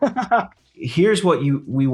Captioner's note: laughs